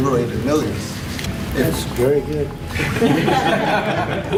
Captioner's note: laughter